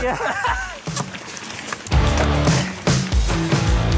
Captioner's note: both laugh